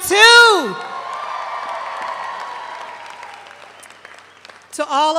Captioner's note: audience cheers